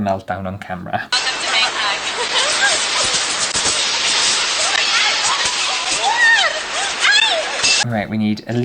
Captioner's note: fighting and screaming